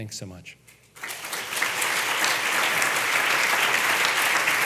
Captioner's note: audience applauds